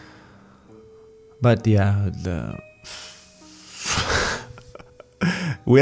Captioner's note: laughs